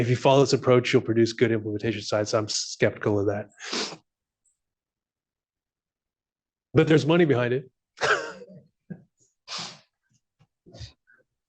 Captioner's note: laughs